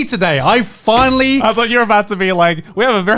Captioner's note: palm thudding